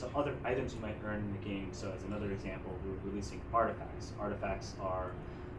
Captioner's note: none